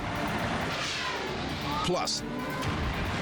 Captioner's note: explodes